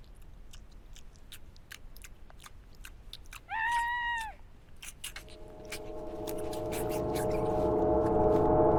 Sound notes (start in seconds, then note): 3.5 Dawn screams